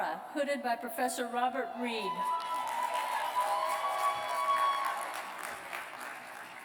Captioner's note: cheers and applause